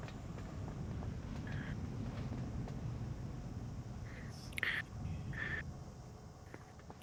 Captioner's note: wind howling